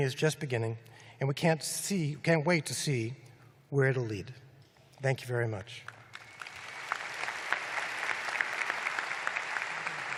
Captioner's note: applause